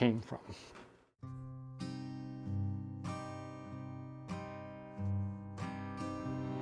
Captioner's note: singer humming; melancholic guitar music